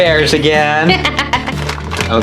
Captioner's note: laughs